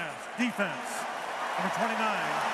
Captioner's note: cheering